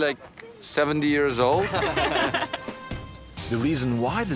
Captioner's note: upbeat music; laughing